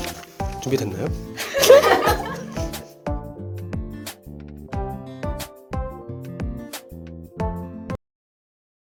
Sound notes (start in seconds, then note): 1.4 laughing